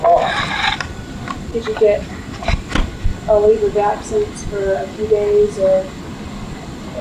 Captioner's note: scraping; engine noise